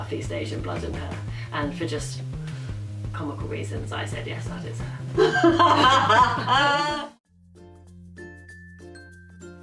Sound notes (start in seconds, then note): 5.1 both laughing